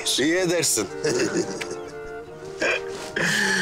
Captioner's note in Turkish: Gülüyorlar